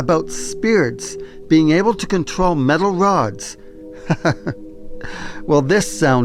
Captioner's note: chuckles